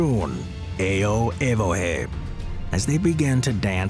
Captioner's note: speaking in foreign language